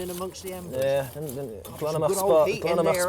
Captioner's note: speaking Gaelic